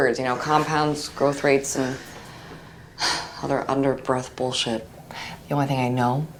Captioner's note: sighs